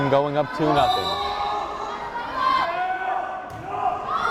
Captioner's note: whistle blares